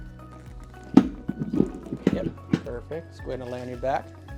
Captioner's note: table clatters